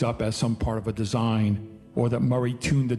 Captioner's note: none